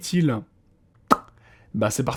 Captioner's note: funny noise